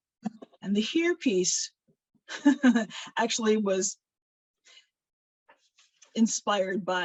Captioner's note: laughs